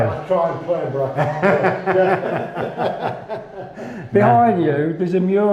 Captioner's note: laughs